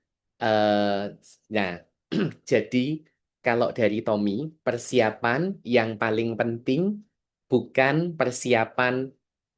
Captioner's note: berdehem